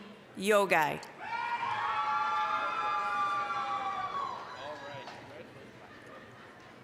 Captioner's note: applause, cheering